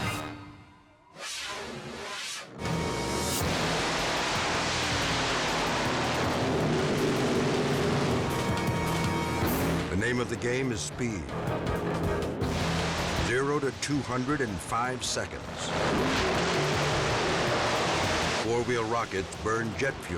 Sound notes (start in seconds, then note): 0.8 graphic whooshes; 2.5 engines roaring; 8.2 dramatic music; 16.0 engines roaring